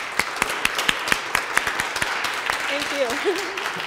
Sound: applauding

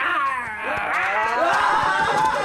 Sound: growls; boys growl and shout

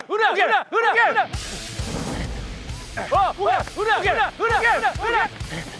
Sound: sprinting

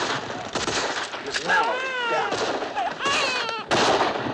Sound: baby crying

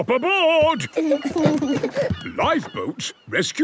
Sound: both giggle

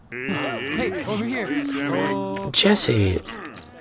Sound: crowd muttering

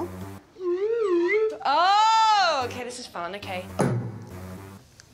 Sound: upbeat music; swanee whistle warbling

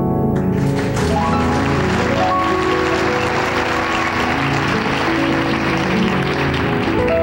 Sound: audience applauding

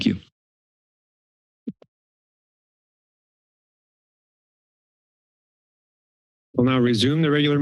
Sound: silence

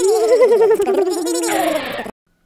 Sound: skid

